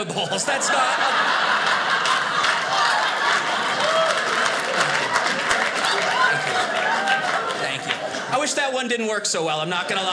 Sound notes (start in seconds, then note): 1.4 audience laughing; 3.5 audience cheers